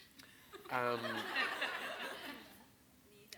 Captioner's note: audience laughs